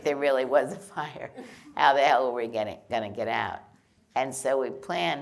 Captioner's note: laughter